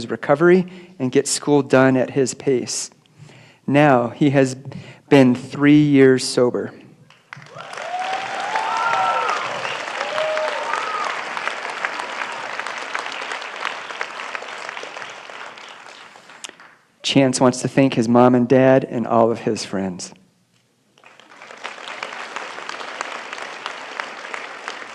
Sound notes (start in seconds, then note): 9.5 cheering and applause